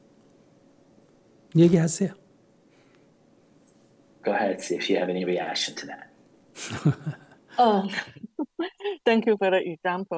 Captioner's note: /Questioner Laughter